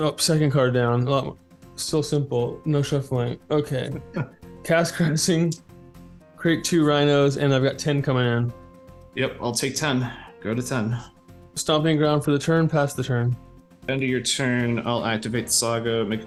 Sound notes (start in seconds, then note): 4.0 giggles